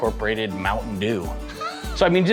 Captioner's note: laughs